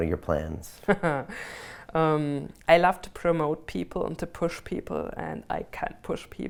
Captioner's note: laughs